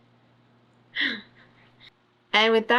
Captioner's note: laughs